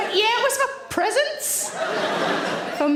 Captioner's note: audience laughing